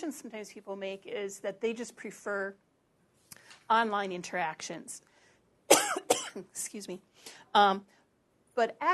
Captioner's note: cough